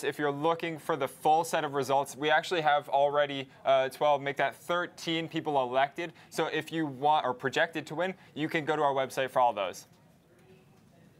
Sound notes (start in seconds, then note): none